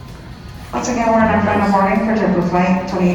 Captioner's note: public Announcement